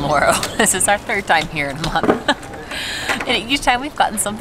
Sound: laughs

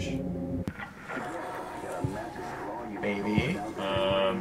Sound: muffled radio noises

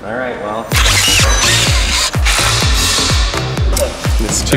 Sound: drilling; upbeat electronic music

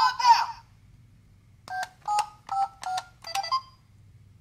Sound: beeping

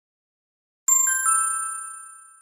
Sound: ding!

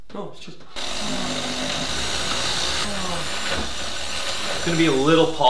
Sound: blender whirring

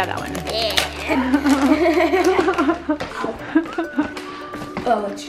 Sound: both laugh

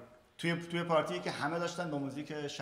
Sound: speaking in farsi

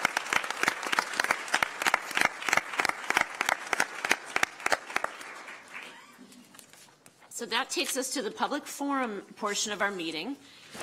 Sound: applause

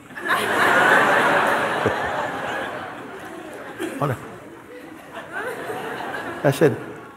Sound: laughter

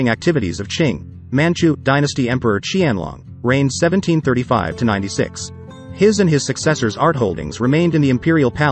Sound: manchu

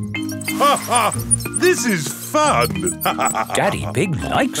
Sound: laughs

